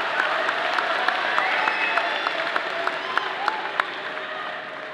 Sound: clapping and cheering

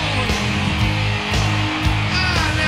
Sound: audience cheering

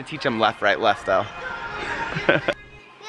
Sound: laughs

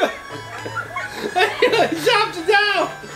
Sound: laughs

